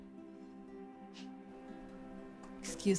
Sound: huffs

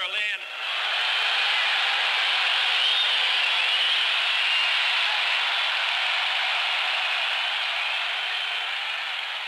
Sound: cheering

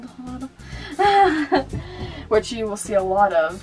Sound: laughter

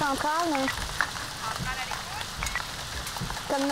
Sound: Central on radio

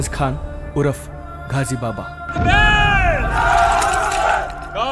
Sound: Urdu Language

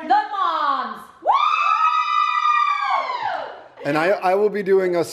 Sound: moms cheering

